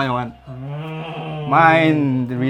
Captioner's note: happy understood noises